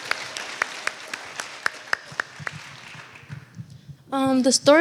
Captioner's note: applause